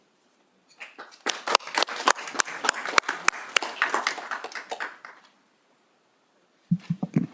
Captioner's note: applause